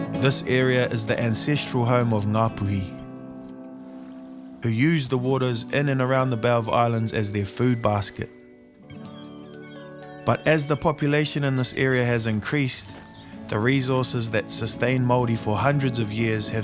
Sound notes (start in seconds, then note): none